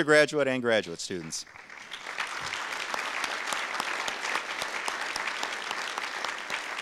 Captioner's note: audience applause